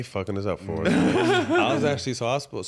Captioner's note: chuckles